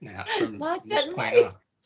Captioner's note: laughing